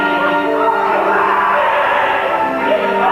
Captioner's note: Manjiro screams and runs